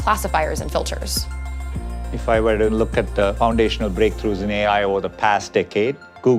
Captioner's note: voice of Sundar Pichai